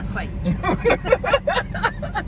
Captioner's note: laughing